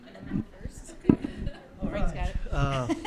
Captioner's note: attendees laugh